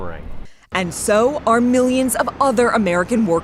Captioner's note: voice-over